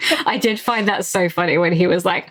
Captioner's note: laughs